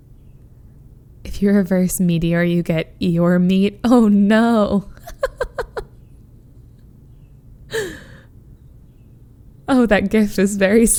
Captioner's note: laughs